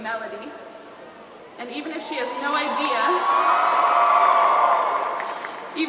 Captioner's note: applause